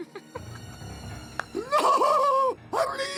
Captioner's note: giggles